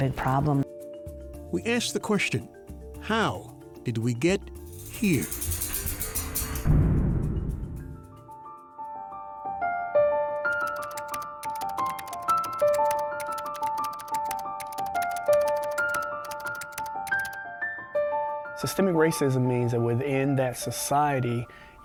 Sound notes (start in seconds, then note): 4.7 door clatters; 9.6 twinkling music; 10.5 typewriter clicking